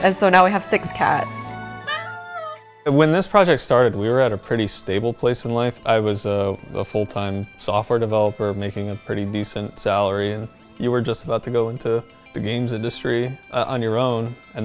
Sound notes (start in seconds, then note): 1.8 cat meow